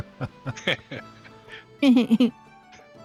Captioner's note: laughter